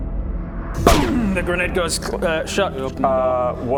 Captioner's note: boom!